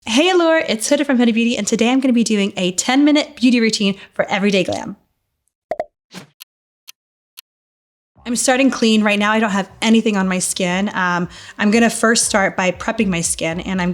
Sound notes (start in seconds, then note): 6.5 clock ticking; 8.2 upbeat music